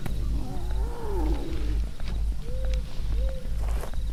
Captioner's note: animals hooting